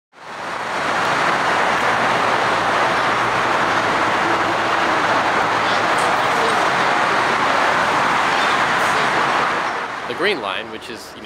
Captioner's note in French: grands bruits